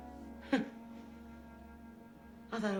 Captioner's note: chuckles